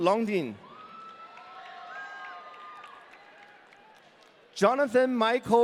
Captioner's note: audience cheering